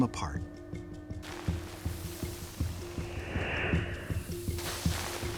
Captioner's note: crumbling